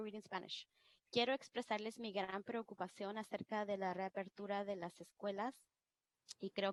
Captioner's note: speaking in foreign language